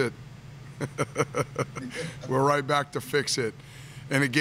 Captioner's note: laughs